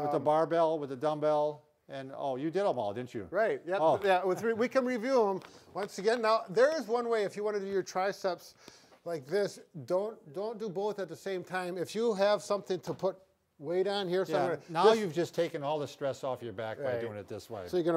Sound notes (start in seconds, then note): 4.2 laughs